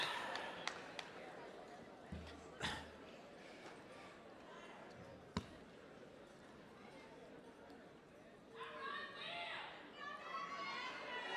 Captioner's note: applause